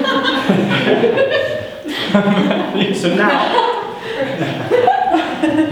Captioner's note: audience giggling